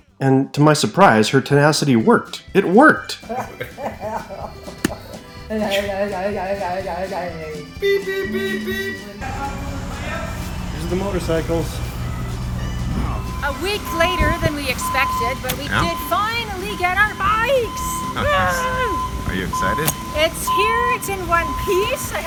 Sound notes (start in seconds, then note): 3.1 laughing; 18.3 roaring